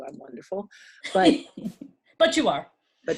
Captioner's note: chuckling